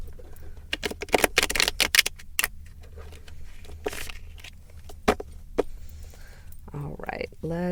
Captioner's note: shuffling continues